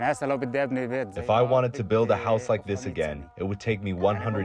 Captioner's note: through translator